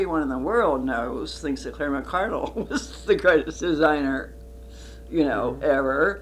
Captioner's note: laughs